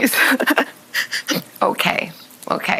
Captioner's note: Hoda sobbing